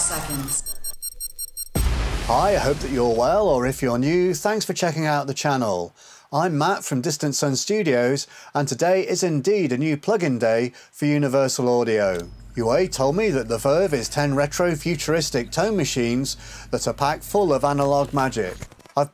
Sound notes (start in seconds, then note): 0.0 recording beeping; 1.7 recording booms